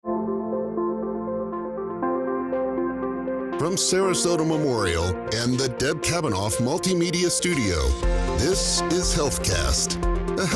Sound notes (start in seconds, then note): 0.0 inspiring music; 3.7 voiceover